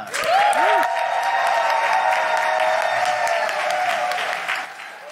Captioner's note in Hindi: वाहवाही